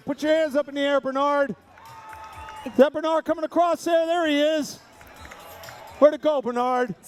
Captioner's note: cheering